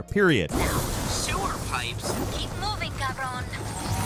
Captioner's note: characters fighting; upbeat music